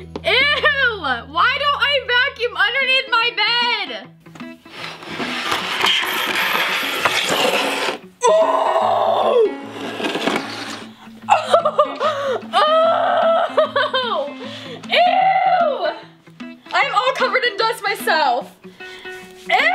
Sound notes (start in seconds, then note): 4.4 box scraping against the floor; 11.2 laughs